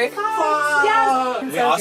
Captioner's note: exclamations